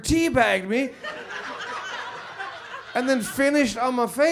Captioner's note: audience laughs